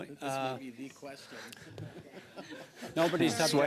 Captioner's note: laughter